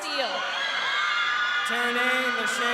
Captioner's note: crowd cheering